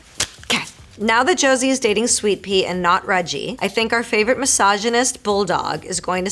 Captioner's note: Marisol reading fan letter aloud